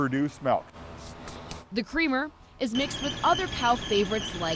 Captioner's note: hand wiping